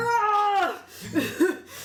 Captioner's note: yells exasperatedly